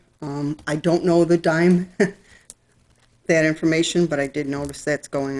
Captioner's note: laughs